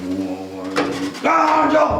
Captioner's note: groaning